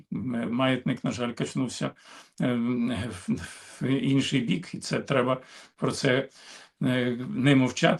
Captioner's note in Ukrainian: сопіння